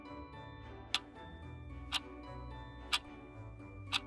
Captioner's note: clock ticking